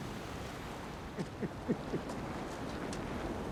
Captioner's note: chuckle